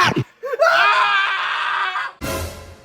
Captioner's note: ahh hahahahahahahahahaha